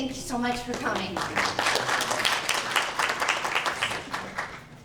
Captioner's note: applause